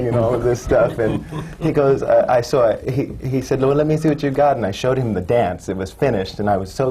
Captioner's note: laughter